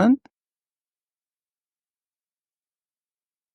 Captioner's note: silence